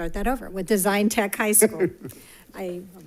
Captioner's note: chuckles